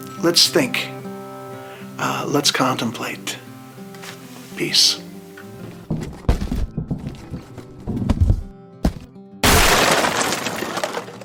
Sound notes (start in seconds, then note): 5.9 box shaking; 9.4 box explodes